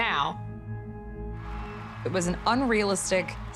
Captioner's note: audience cheering